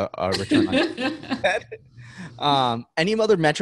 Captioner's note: laughs